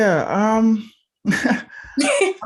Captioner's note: laughing